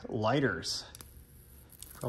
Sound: zapping

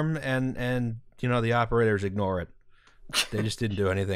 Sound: laughter

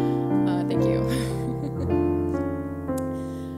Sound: laughs

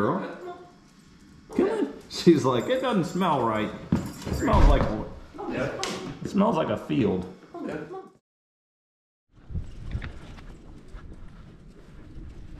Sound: laughing

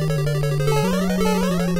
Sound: castle music; jump sounds

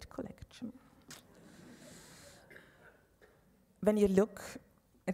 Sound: audience laughs

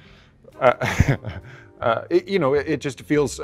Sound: Adam chuckling

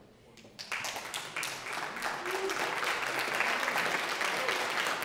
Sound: audience applauding

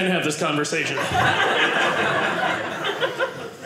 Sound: audience laughing

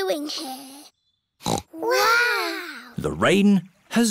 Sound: peppa snorts

